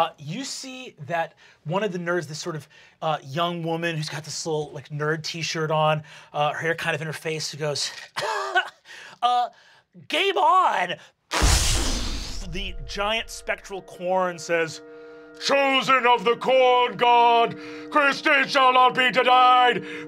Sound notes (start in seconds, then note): 8.6 scoffs; 11.4 mimics explosion